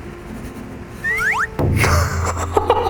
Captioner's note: swoop